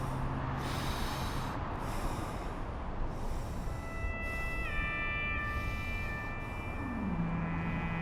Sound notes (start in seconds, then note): 0.7 man breathing